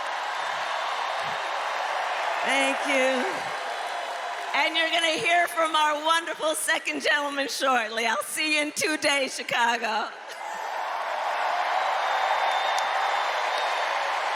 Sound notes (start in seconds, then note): 4.6 cheers and applause